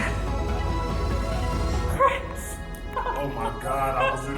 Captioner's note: sighs